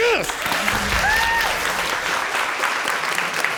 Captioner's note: applause and whooping